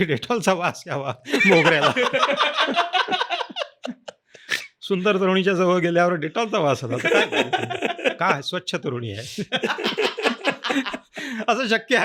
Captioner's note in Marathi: हास्य